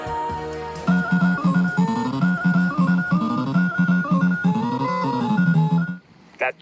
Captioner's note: "Pac-Man" arcade machine noises